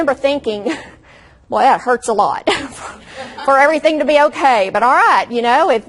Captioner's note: audience laughs